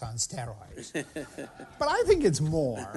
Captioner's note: laughter